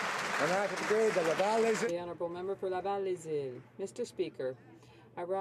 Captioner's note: some Applause